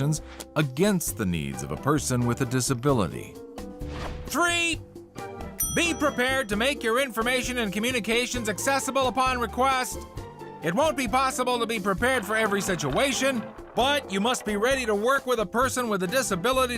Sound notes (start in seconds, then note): 3.6 speaking loudly; 5.6 bell dings